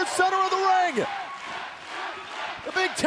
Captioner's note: crowd cheering